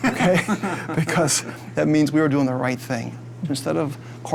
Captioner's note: laugh